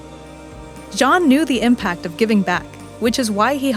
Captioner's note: voiceover